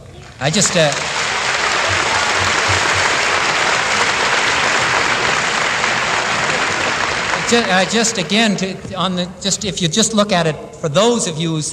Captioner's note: applause